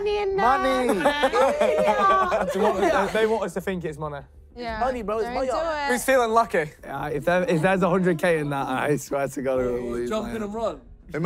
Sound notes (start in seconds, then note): 0.7 contestants laughing